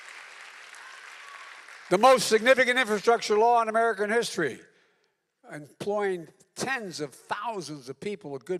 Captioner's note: applause